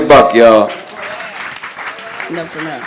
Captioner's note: crowd applauds